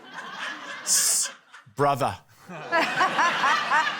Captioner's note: laughter